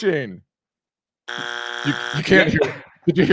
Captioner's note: buzzer beeps